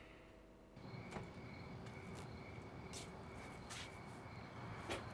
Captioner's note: insects chirping